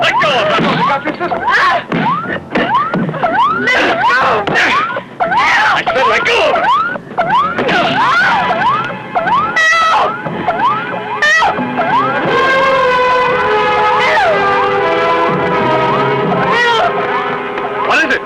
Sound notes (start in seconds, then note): 1.8 whacking; 3.1 crying out; 7.2 whacking; 7.7 crying out; 12.1 dramatic music